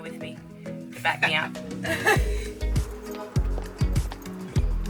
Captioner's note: laughing